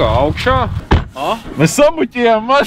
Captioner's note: the door knocks